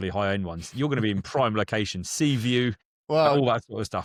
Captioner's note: laughs